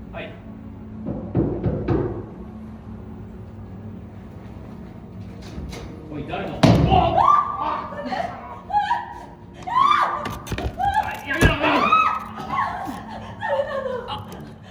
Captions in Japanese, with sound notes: はい 【ドアをノックする音】 おい、誰だ？ 【うめき声】 【悲鳴】 やめろ！ 誰なの？